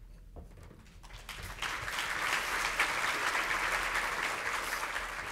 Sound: audience applauding

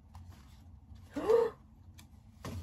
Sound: big gasp

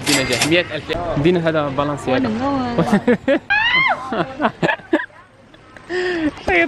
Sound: giggles; scream

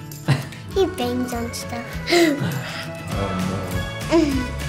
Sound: interviewer laughs; laughs

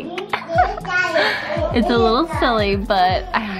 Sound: boys talking in background

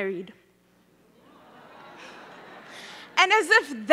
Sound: audience laughing

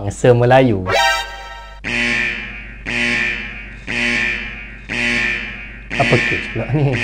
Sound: alert Sound

